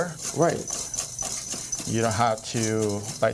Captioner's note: bowl clinking